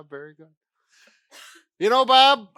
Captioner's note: coughing